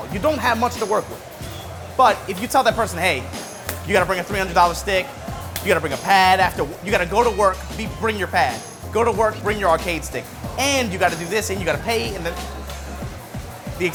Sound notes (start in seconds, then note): 3.3 hand slapping